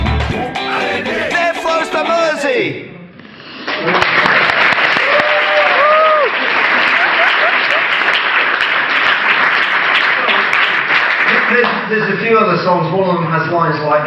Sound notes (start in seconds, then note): 3.8 crowd cheers